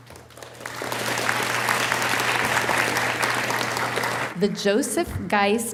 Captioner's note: audience applauding